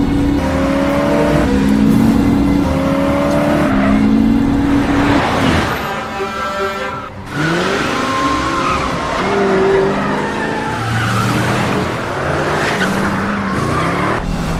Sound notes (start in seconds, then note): 0.6 car passing in high speed; 7.3 tire screeching